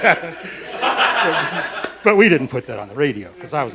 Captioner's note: laughing